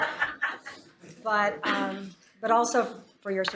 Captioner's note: laughter